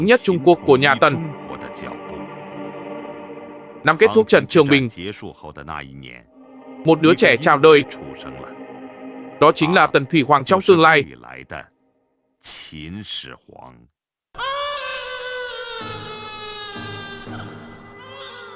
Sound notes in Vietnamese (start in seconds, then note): 14.4 la hét